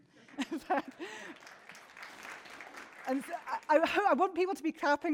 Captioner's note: audience clapping